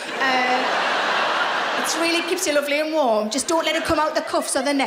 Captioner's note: laughing